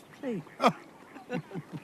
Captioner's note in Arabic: كلاهما يضحك